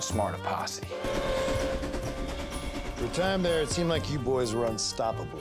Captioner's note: train whistle